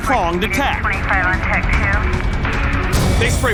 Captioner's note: police radio chatter